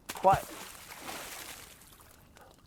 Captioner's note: water splashing